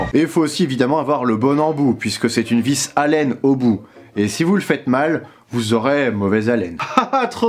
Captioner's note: breath in french